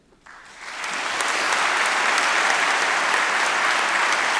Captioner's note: audience applauding